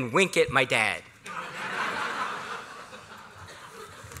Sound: laughter

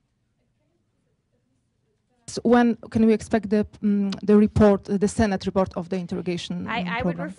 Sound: off-mike

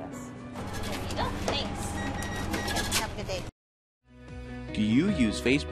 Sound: cash register

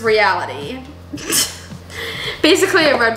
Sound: laughs

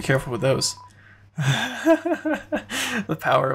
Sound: even more laughter

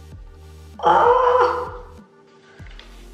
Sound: pained noises

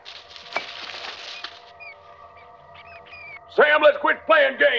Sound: mice scattering; mice squealing

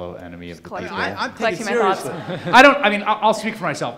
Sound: overlapping muttering

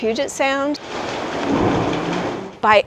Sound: water gushing and pounding

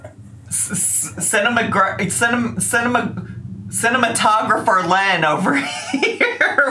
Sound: stutters

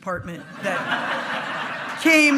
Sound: hearty laughing

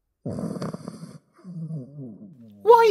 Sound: dog snoring

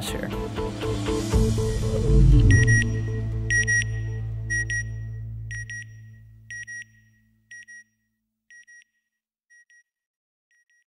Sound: satellite beeping

